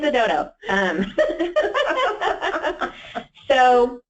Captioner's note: laughing